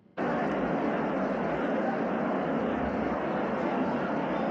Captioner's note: chattering